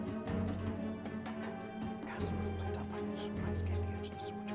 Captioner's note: whispering